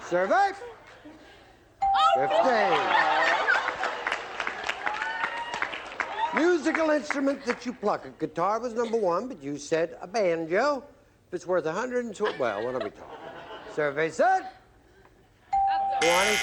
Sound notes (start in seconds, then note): 2.6 laughs; 3.6 applause